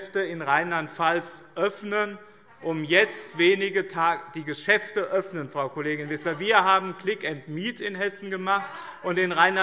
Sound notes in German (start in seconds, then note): 4.4 Zuruf